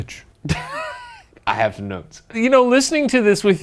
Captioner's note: laughs